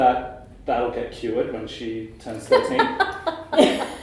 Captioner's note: laughter